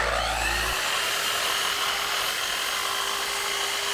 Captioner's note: saw buzzing